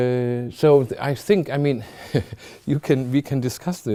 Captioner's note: chuckling